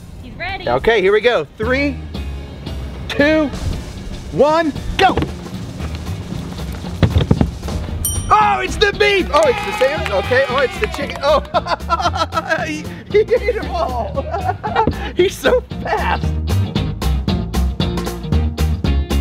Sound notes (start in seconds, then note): 11.2 laughs; 16.4 cheerful music